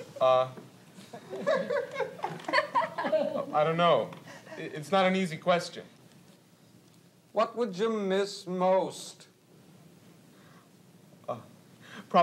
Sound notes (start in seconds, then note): 1.0 laughter continues